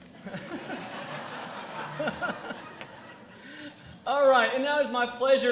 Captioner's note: laughter